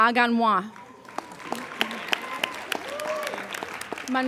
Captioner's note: applauding